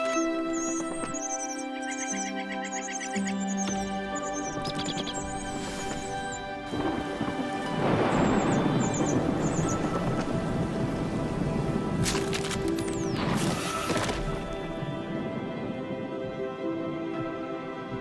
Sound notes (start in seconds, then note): 1.6 birds chirping; 6.7 thunder crashing; 12.0 snap; 14.0 thud